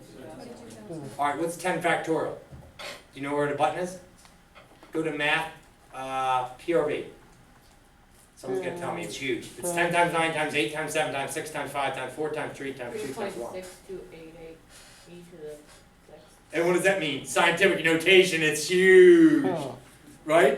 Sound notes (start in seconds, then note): 0.3 voiceover; 13.8 voiceover; 15.8 speaks softly